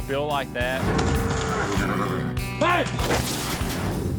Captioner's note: mooing, horse whinnies